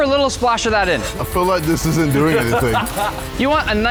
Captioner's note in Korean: 웃음